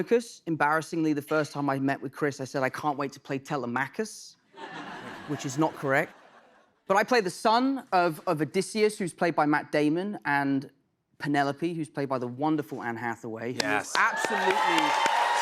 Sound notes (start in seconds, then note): 4.5 laughter; 13.6 cheers and applause